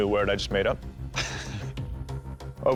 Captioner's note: chuckles